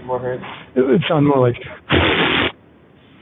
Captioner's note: raspberry